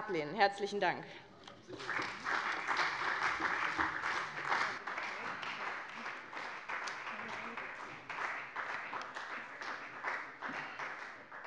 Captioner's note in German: Beifall bei dem BÜNDNIS 90/DIE GRÜNEN und der CDU